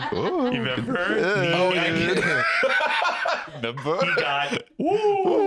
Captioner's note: laughs